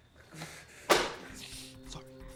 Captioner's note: screenplay thuds